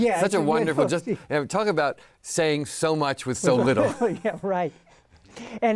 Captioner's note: laughs